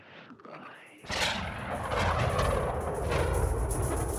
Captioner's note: thunder; faint metallic rattling